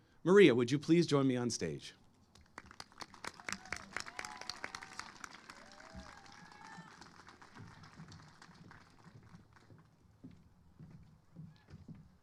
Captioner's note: applause